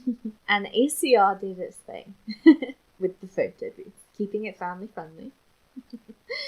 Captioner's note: giggles